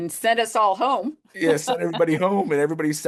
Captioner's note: chuckles